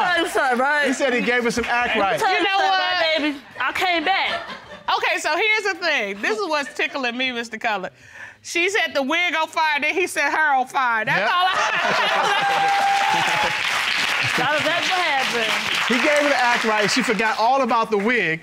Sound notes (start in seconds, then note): 11.2 laughs; 11.6 audience applauding